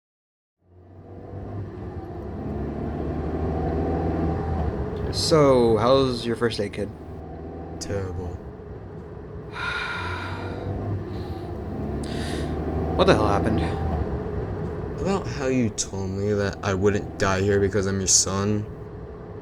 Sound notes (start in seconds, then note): 9.5 Mister Demi sighs